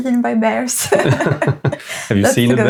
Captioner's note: laughing